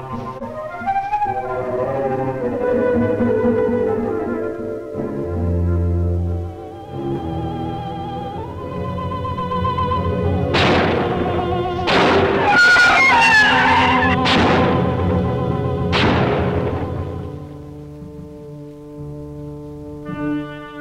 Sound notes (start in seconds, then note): 9.7 gun firing; 12.3 creature screeching; 18.1 tense music